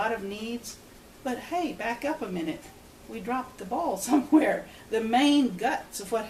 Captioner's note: laughs